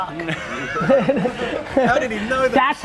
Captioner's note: laughing